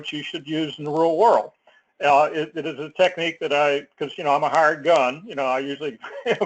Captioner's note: laugh